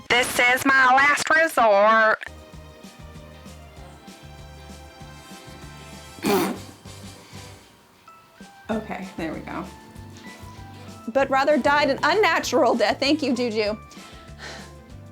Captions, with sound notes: This is my last resort. (upbeat music) (laughing) Okay, there we go. But rather died an unnatural death. Thank you, Juju.